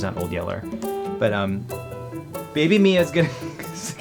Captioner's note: laughs